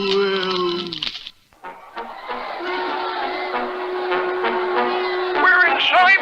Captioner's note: crowd Roars